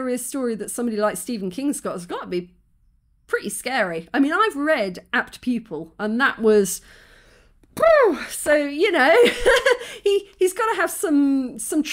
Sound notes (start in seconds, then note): 6.8 exhale